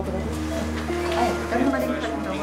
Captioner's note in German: Stimmenwirrwarr